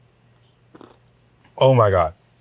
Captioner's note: chicken crunches